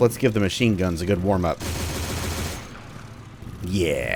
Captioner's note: 30 Cal barrage